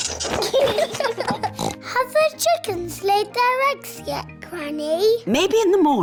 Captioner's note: both giggling; oinks